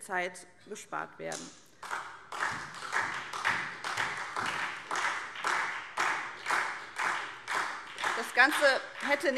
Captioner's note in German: Beifall SPD